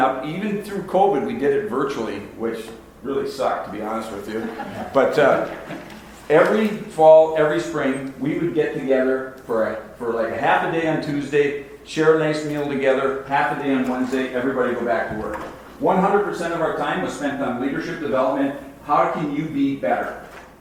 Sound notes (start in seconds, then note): 4.3 audience laughs